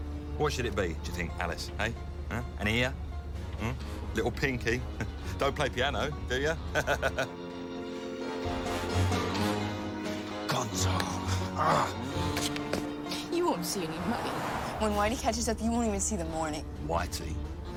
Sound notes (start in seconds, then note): 6.7 laughs; 11.4 growls